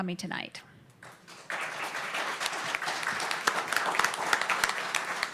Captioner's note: applause